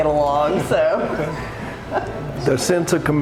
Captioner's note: group chuckling